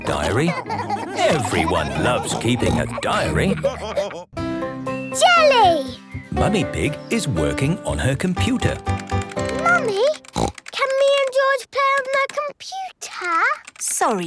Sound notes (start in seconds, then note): 10.0 snorts